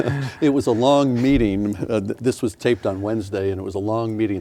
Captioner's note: laughing